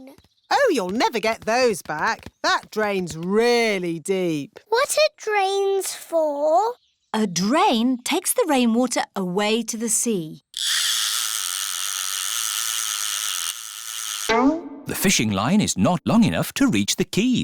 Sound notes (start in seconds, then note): none